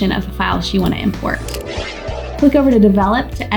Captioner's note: air whooshing